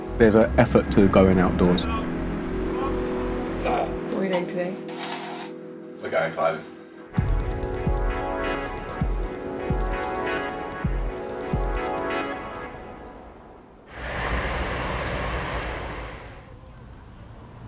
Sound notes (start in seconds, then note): 7.5 ambient music; 13.8 train whooshing